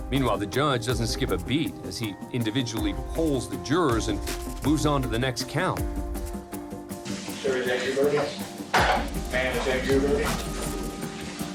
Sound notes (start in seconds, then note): 7.5 judge speaking